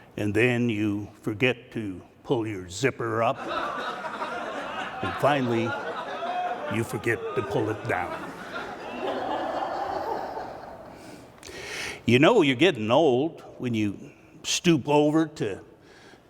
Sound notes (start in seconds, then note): 9.7 laughing